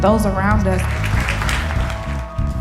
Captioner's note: crowd clapping